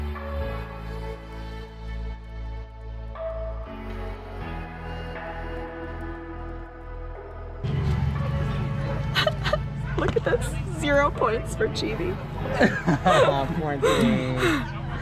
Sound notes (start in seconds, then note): 0.2 upbeat music; 9.1 camerawoman sobbing; 12.4 guy laughing